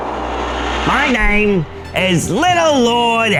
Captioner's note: in puppet voice